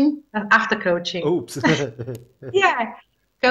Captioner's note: chuckles